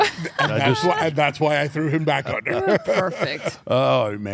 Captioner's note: laugh